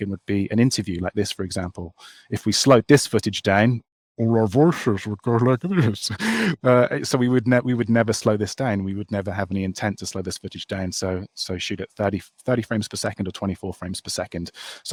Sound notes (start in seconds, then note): 5.6 laughs